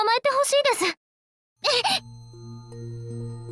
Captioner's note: cough